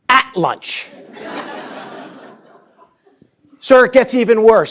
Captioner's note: laughter